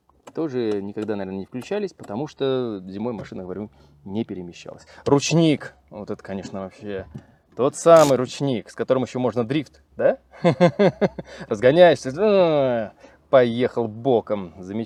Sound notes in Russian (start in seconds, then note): 10.3 смех